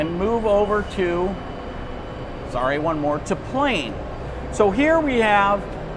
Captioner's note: plane